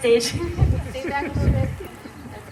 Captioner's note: laughter